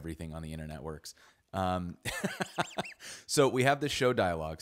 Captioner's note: laughs